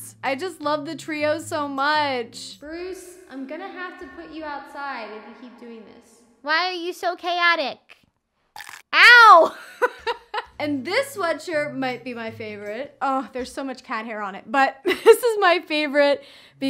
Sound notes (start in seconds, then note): 8.7 crunches; 9.8 laughs; 14.7 chuckles